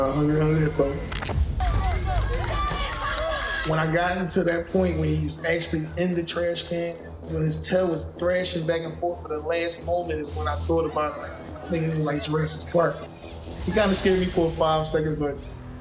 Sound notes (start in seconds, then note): 0.0 neighbors cheering